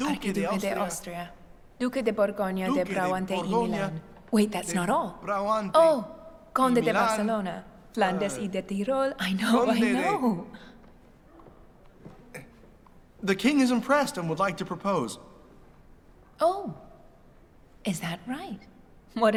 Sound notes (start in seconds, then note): 0.2 Elizabeth speaks in a foreign language; 6.0 Elizabeth speaks in a foreign language